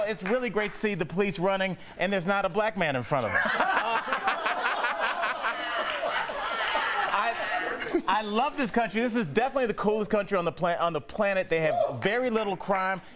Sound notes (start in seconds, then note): 3.2 laughter